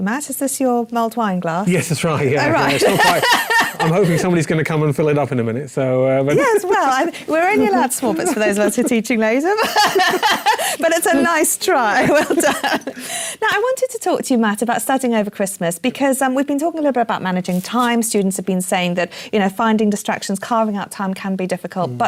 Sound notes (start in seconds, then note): 2.4 laugh; 9.5 laugh